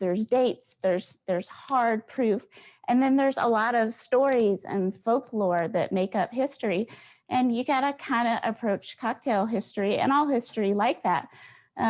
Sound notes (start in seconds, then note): none